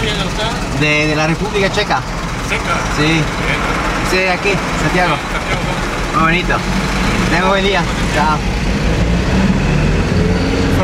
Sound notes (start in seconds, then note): 1.1 in Spanish